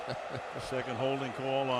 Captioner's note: chuckles